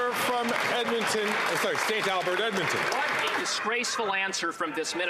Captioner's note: some Applause